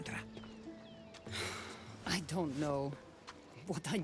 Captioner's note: exhale